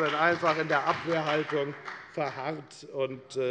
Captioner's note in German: Beifall bei der FDP und der SPD